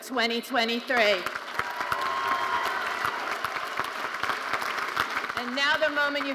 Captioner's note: audience applauding and cheering